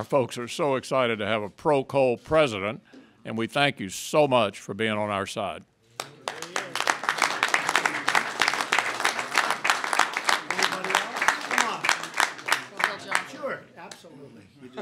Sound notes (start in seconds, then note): 5.9 applause